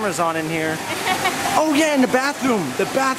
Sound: laughs

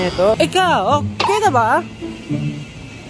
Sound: in a Korean accent

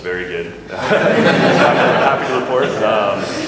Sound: laughter

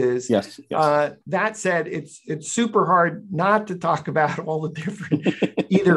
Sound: laughter

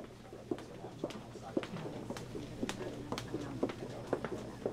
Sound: footfalls

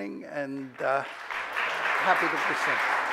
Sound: audience applauds

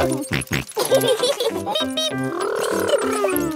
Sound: both laughing

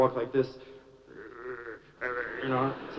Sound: grr grr

